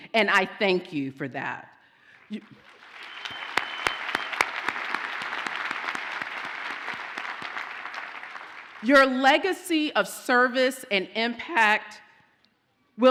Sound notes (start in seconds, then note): 2.3 audience applauds